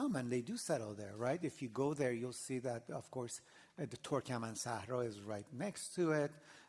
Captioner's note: non-english